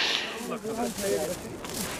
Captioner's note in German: Gesprächsgemurmel